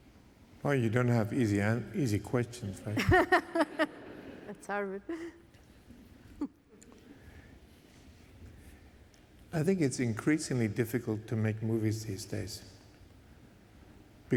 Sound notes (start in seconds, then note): 2.8 laughter